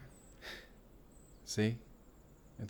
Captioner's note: kissing